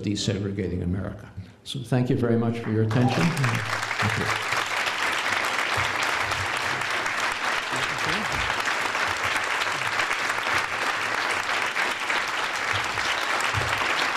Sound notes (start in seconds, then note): 2.6 applause